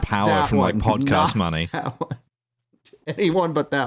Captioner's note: laughing